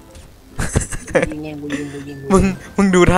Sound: laughing

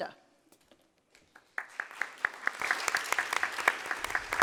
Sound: applause

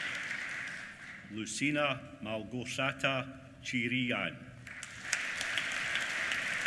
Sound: applause

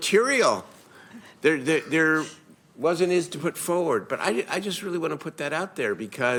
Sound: laughter

